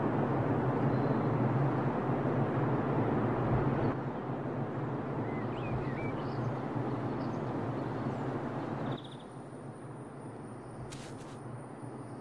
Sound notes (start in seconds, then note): 5.5 birds chirping, gentle wind blowing